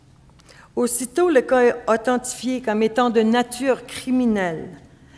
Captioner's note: speaking French